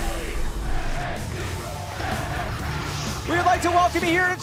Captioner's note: fans chanting